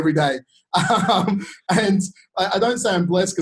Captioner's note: laughing